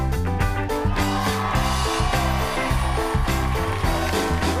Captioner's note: applause